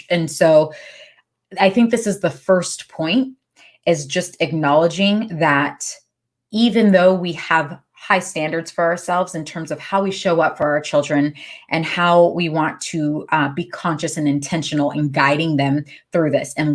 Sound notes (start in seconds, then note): none